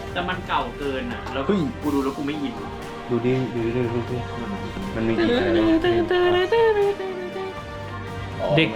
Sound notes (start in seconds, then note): 5.9 humming some melodies